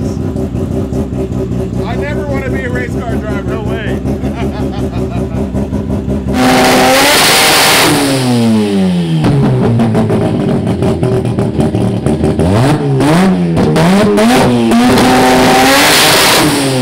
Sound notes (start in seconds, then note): 6.8 car engine revving